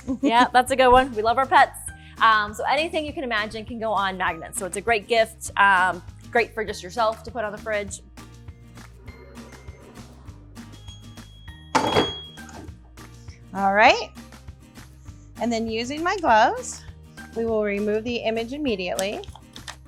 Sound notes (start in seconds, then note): 8.6 grinding; 10.2 electronic beeps